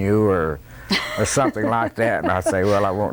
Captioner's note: laughter